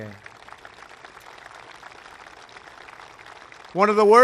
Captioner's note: applause